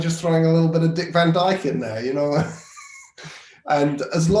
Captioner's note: laughing